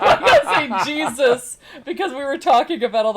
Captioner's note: laughing